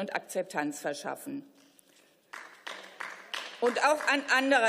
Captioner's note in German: Beifall